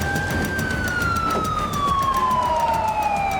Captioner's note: sirens approaching